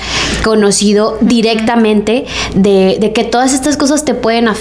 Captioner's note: sighs